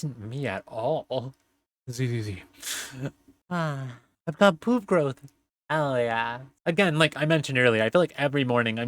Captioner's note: yawn